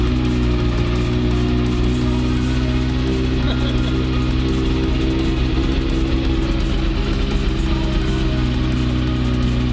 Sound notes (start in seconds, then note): 3.4 laughing